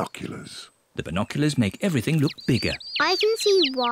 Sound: chirping

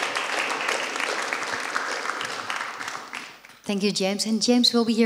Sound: applause

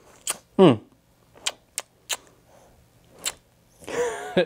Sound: smooches loudly

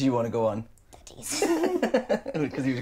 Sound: laughing

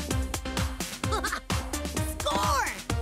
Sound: laughing

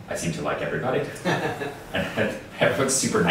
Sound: laughing

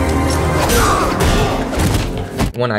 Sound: dramatic music; smashing

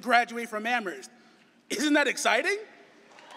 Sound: cheering and applause

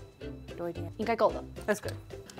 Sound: speaking in mandarin

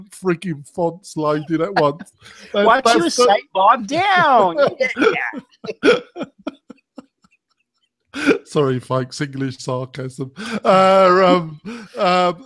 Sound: laughs

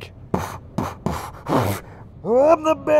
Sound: moist beat boxing

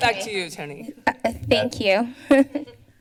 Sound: chuckles

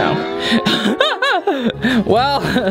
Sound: laughs

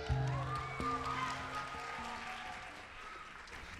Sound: applause

